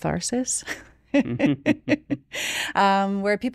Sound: chuckles

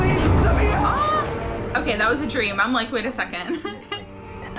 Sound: chuckles

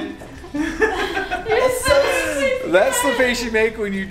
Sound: laughs

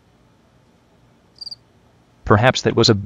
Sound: cricket

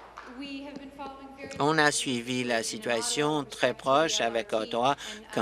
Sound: applause

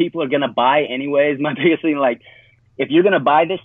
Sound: chuckles

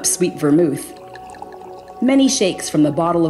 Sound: liquid trickling

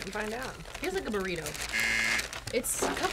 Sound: buzzer rings

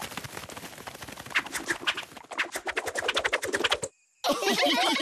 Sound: ears flutter

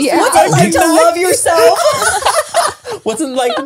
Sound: everyone laughs

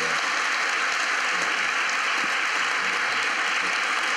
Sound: applause

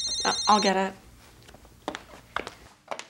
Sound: phone rings

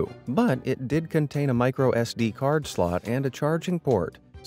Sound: none

